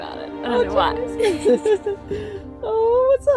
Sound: laughs

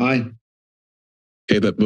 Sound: silence

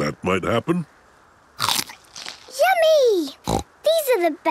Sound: crunch!; snorting

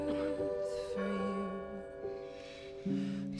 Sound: bell rings

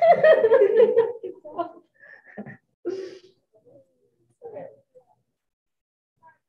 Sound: group laughing

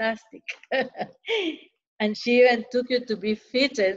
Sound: laughter

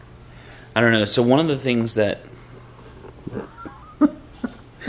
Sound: chuckles

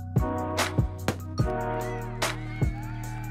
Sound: starting pistol fires

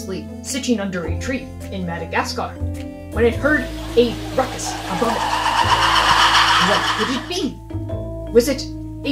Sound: loud chattering noises

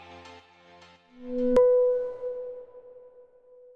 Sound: chiming

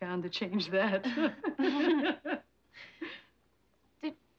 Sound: laughing

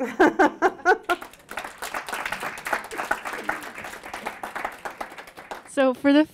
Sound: applause

